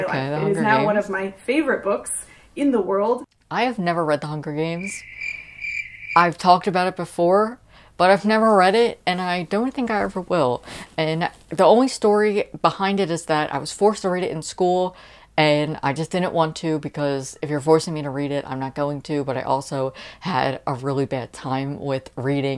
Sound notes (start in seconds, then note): 4.6 crickets chirping